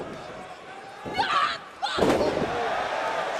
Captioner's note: crowd chatter